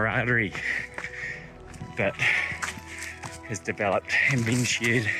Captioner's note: panting